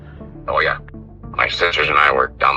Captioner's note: on phone